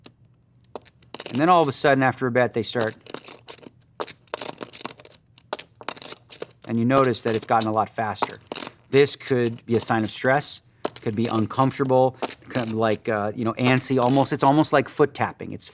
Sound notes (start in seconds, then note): 2.5 loud and quick chip shuffling